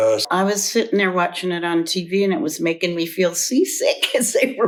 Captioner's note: laughs